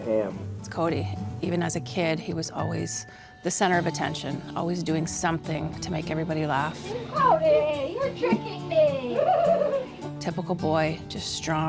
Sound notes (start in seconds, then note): 8.6 laughing